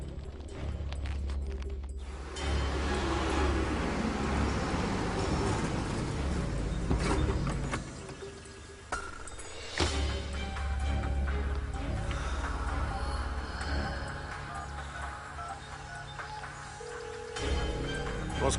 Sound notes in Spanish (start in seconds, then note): 3.5 Ruido de motor; 14.6 Sonido al marcar